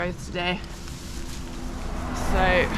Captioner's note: car